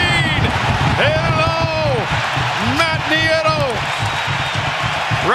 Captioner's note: applause